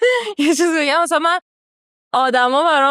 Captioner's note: laughs